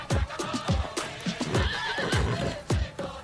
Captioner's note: horse neighs